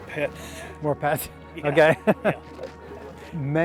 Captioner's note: laughs